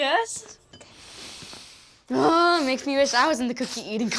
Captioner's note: sniffs